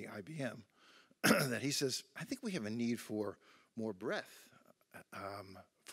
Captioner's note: cough